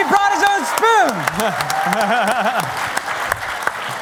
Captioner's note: applause